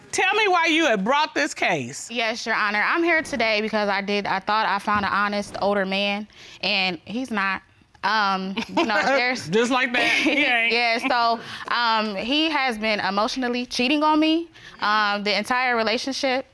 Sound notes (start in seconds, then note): 9.8 chuckles